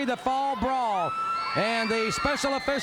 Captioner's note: crowd cheering